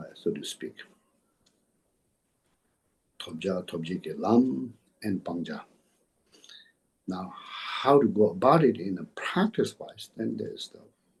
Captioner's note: tibetan